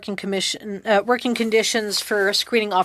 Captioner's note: speaking French